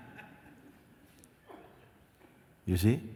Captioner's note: laughter